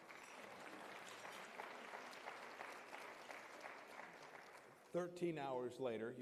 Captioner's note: applause